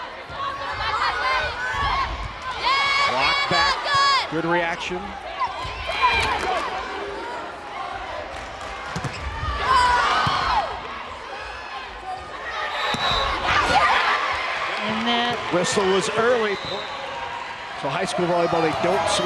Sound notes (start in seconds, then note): 6.1 crowd chanting; 12.3 crowd and players cheering